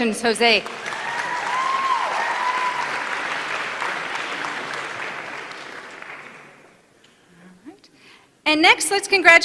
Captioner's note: applause